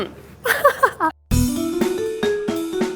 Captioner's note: laughs; cheerful music